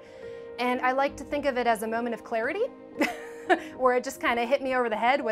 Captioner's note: laughs